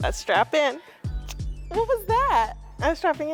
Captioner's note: mimicking seatbelt clicking